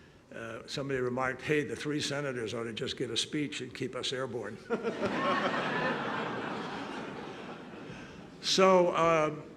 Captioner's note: laughter